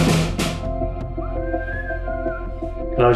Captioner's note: drums banging; whistling